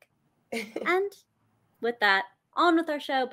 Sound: chuckles

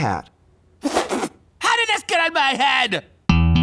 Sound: splutters

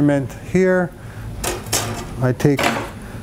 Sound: measuring stick clanks

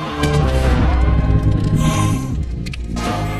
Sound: gasps

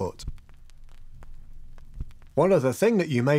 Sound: record needle crackling

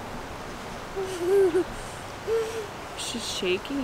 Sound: giggling

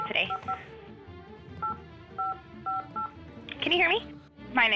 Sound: beeping

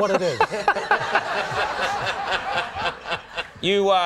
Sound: laughing

